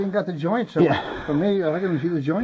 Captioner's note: heavy breathing